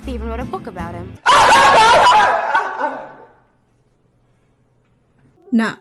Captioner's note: sarcastic laughter